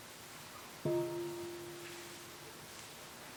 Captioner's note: half bell